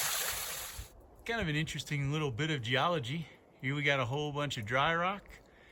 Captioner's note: loud water noises